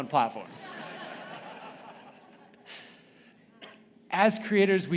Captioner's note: audience laughing